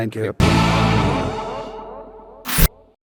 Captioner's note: screen chiming